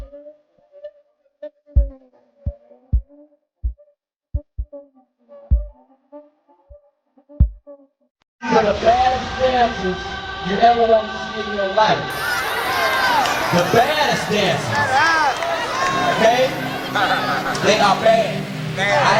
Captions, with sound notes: - [Voiceover] These are the baddest dancers, you ever want to see in your life. The baddest dancers. Okay? They are bad.